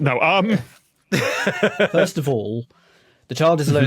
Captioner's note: laughs